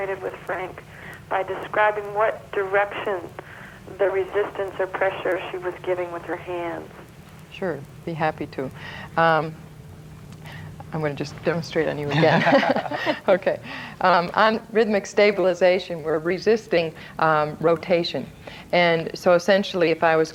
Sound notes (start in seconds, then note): 12.1 laughs